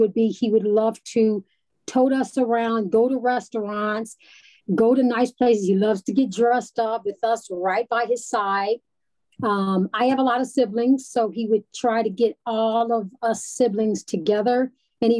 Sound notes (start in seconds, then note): none